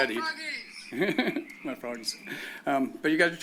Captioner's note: chuckles